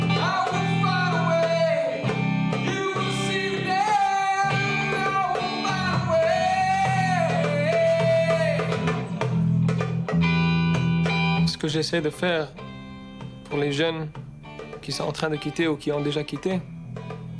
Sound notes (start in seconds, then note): 11.6 speaking in foreign language